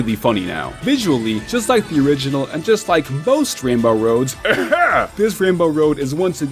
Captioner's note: ahem